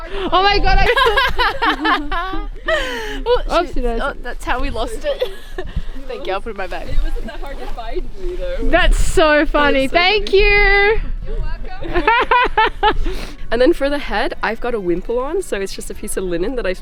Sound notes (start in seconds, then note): 0.0 laughing; 11.8 laughing